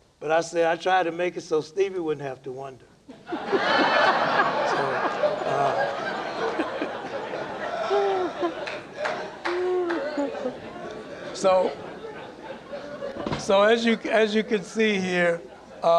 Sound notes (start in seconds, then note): 7.1 laughter